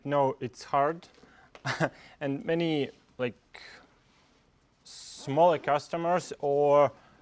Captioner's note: laugh